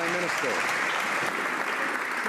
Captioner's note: some Applause